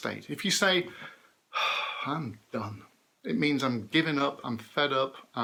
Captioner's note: sighs